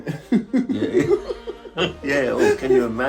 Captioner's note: laughs